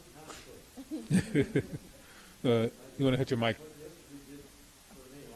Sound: laughs

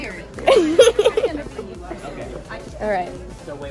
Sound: laughs

